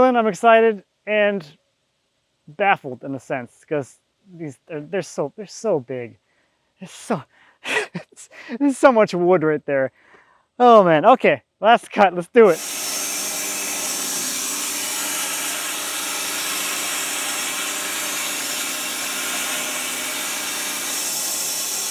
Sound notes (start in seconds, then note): 7.6 laughing; 12.9 saw buzzing